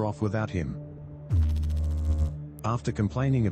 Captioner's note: electrical noise